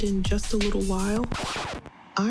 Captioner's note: scratched record sound effect